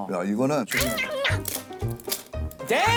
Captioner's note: crunch